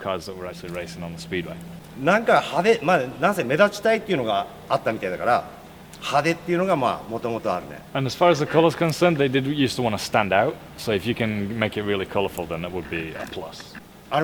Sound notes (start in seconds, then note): 2.2 speaking Japanese